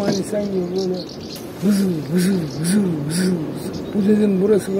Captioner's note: mimicking the sound of passing cars consecutively